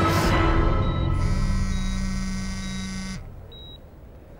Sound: phone buzzes

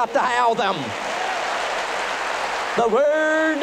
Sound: applause and cheering

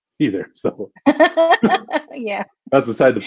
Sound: laughter

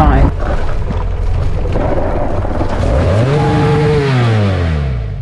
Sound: motorcycle engine revving

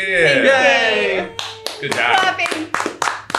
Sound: clapping

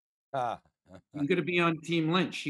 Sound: laughing

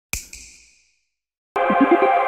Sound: snap

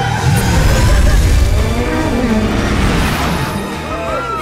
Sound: engines roaring; tires screech; all cheering

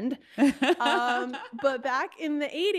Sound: laughing

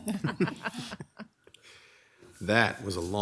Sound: all laughing

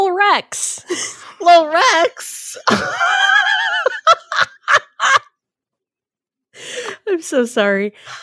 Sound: laughs

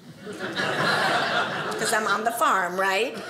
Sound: audience laughing

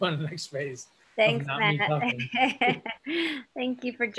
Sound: laughs

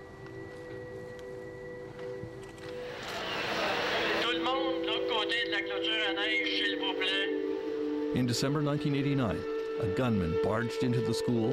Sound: speaking French

